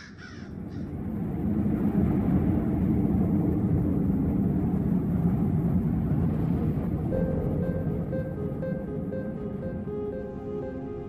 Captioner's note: crows squawking in the background; strong blizzard wind blows